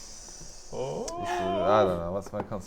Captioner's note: nervous oooo's